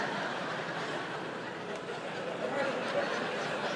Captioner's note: audience laughs